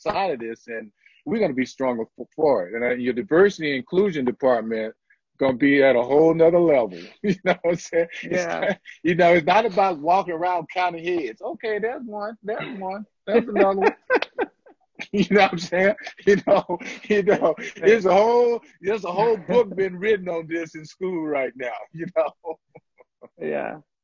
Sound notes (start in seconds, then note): 7.2 laughter; 13.4 laughter